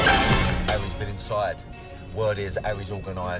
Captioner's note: none